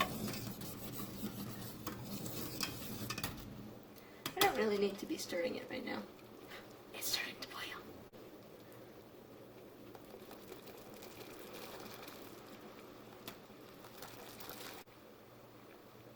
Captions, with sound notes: I don't really need to be stirring it right now. *gasp* It's starting to boil!